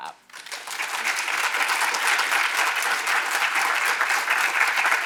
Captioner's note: audience applauding